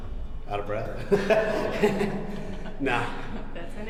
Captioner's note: laughing